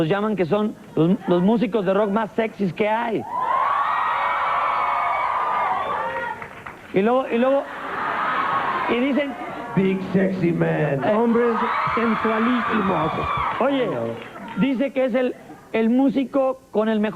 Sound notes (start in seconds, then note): 6.1 applause